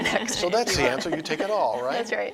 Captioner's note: chuckling